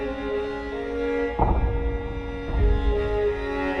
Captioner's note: A third arrow wooshes